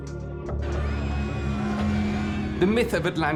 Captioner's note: screams of panic